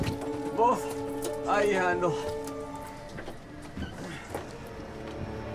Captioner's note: speaks in foreign language